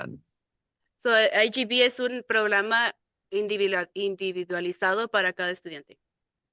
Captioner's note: speaking in Spanish